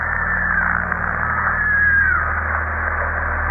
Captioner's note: screaming